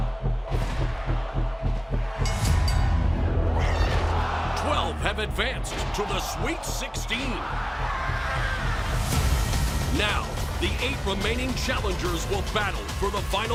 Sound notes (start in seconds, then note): 4.1 bell ringing